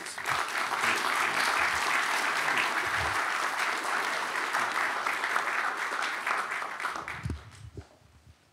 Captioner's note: applause